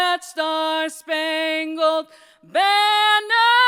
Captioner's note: none